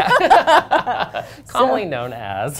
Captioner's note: laughter